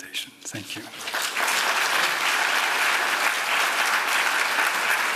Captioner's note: applause